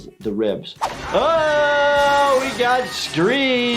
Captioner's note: screaming